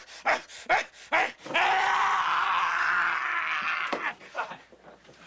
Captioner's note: grunting; yelling